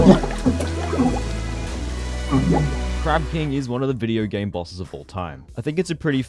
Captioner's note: drowning noises